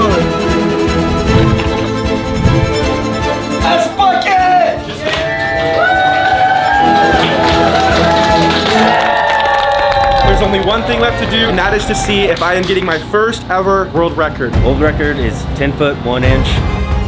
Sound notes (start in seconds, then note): 0.2 rousing orchestral music; 6.9 fans applauding